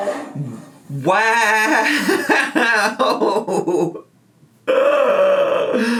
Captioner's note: laughs